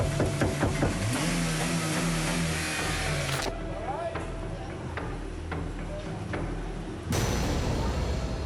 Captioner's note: knocking